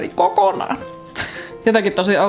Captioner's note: giggles